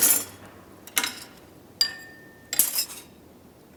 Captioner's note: tools clanking